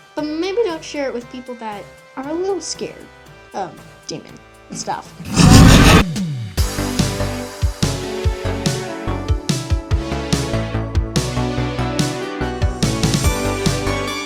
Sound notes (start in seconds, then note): 5.2 demon roar